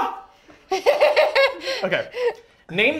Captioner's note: laughter